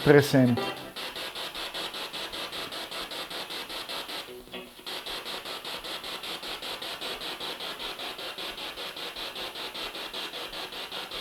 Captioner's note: sound of the Spirit Box in the background